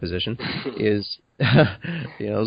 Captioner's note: chuckles